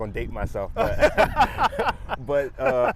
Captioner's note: both laugh